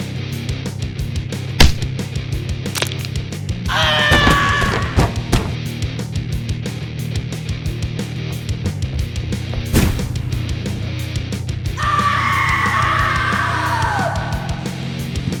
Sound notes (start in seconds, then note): 1.5 sound of impact; 2.7 the sound of a broken bone; 3.7 the sound of falling down the stairs